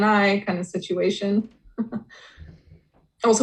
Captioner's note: laughs softly